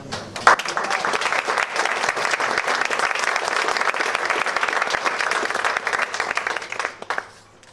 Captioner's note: applause